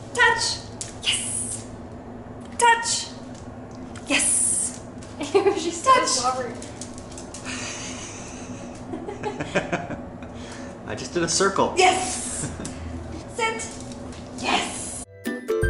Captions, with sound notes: Touch! Yes. Touch! Yes. Ew, she's so slobbery! Touch! [Laughter] I just did a circle. Yes! Sit. Yes.